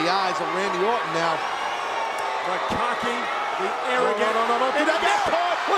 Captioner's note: applause